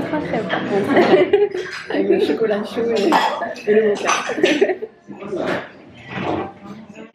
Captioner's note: laughs